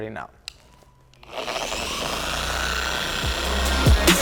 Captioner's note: machine whirring; hip hop music